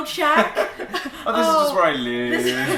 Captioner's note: laughter